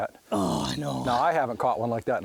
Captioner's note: voiceover